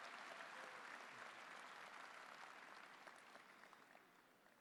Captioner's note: applause